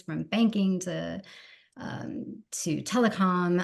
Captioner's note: none